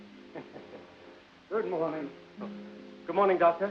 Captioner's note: doctor chuckling